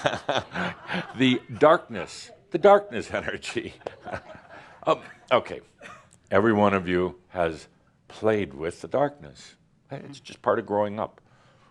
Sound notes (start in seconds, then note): 5.8 chuckles